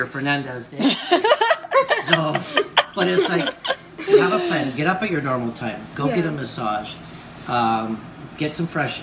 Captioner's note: laughter